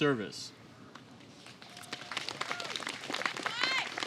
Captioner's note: applause